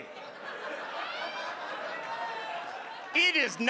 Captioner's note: audience laughing